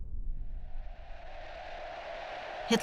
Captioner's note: crowd cheering